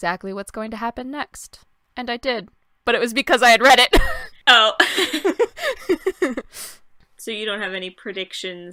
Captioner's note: laughter